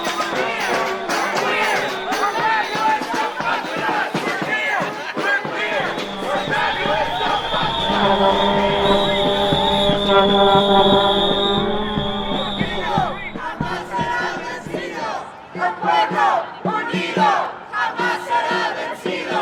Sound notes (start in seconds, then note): 10.6 marching sounds drown out crowd; 13.8 chants in a foreign language